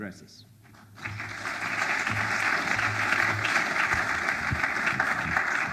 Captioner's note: audience applauds